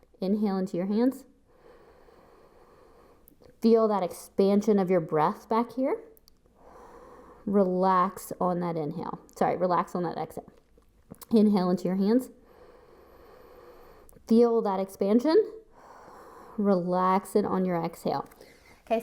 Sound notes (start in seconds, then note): 1.5 inhales; 6.5 exhales; 12.4 inhales; 15.7 exhales